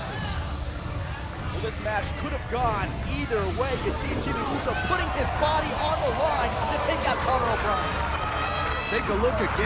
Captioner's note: crowd cheering